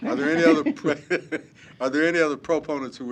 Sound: laughter

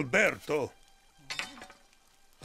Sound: clang

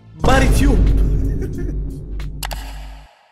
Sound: chuckles

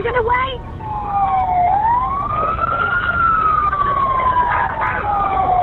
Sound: sirens

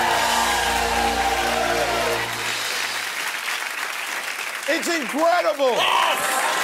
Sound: cheers and applause

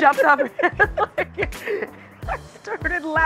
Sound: both chuckling

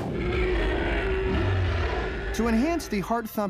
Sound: roar

